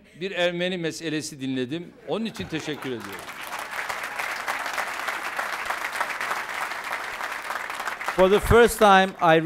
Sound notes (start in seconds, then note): 2.3 applause